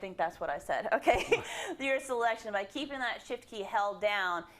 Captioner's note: laugh